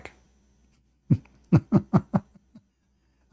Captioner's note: Ketawa